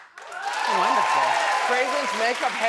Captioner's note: crowd cheers